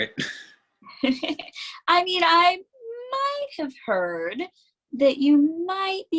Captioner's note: giggles